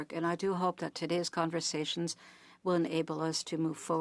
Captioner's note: speaking French